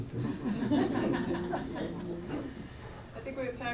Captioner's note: laughter